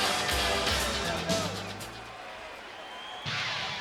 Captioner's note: fans cheering